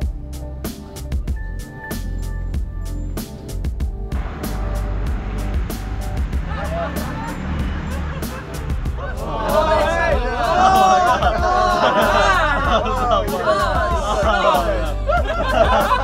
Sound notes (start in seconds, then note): 9.2 group of passengers shouting